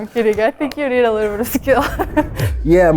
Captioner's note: laughs